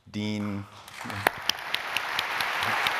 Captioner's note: applause